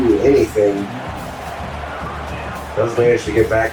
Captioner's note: crowd Noises